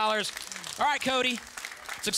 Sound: audience applause

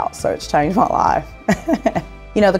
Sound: laughter

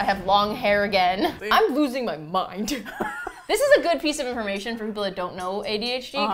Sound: laughs

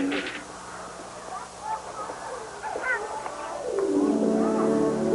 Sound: children shouting, distant; gentle music

